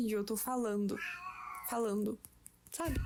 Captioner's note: cat meows